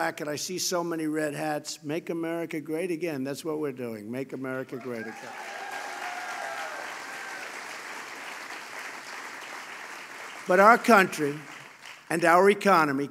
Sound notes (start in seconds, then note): 8.5 applause